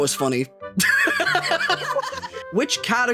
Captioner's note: all Laughing